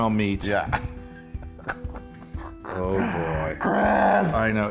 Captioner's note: laugh